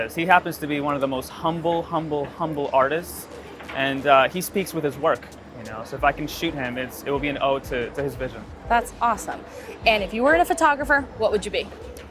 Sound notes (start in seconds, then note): none